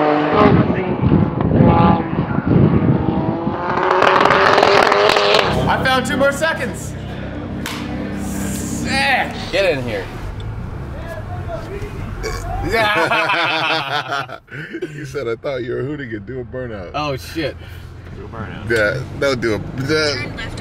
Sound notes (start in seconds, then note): 12.3 everyone laughs; 12.4 man yells from street